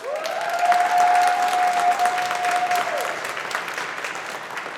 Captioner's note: audience applauding